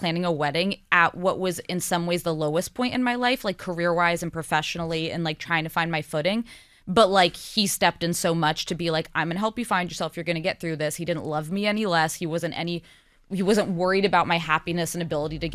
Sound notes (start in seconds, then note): none